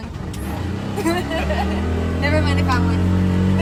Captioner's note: tuk tuk engine revving; both laughs